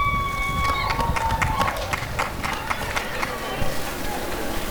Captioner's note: applause and cheering